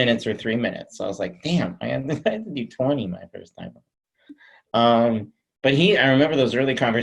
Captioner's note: chuckles